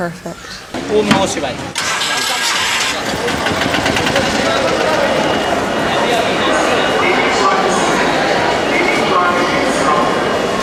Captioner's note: truck starts and rumbles at idle; street noise and voice over loudspeaker